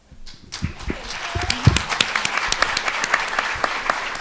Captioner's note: audience clapping